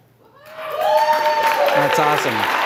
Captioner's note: cheering, applause